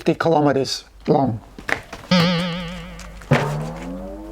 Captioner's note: boing boing sounds